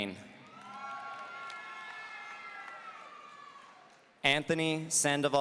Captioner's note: audience cheering